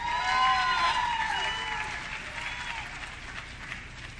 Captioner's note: audience clapping